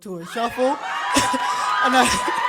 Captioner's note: audience laughs uproariously